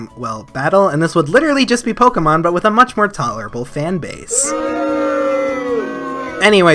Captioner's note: crowd booing